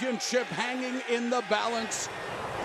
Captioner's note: crowd cheering